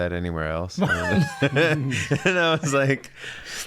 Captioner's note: everyone laughing